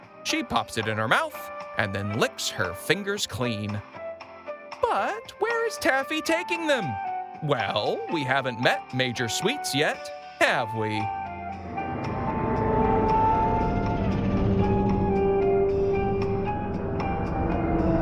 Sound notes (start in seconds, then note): 11.8 door creaking; 11.9 cheerful music playing